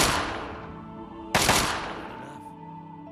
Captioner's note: pop pop!